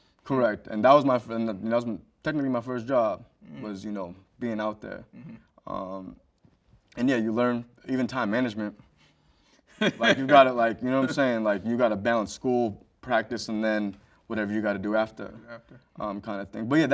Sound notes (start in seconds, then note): 9.8 host laughs